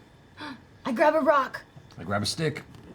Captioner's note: gasps